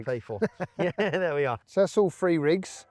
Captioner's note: laughs